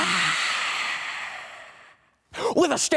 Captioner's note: inhales